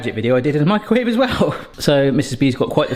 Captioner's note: chuckles